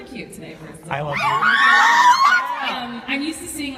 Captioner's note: audience screams